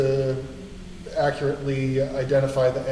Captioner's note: none